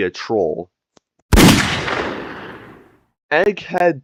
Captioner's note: gunshot